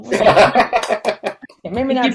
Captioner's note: laughs